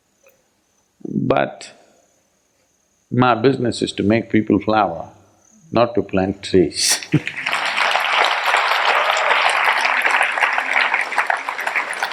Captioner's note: applause